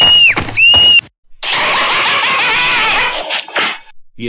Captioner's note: Laughter